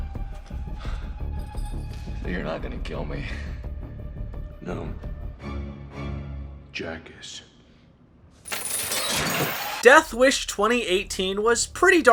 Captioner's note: chains whipping